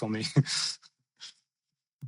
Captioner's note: laughs